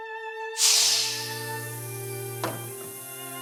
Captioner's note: metal hatch opens, decompression hiss